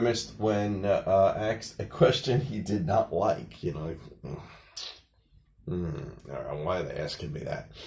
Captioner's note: grimacing noises